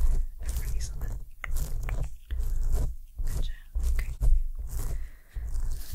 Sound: scraping Sounds

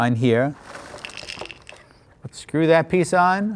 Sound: cereal pouring

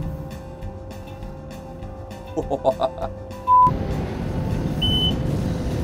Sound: laughing

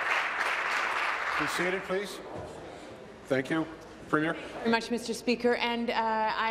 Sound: applause

